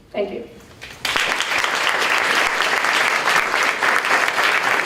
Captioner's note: applause